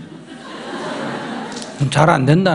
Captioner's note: audience laughter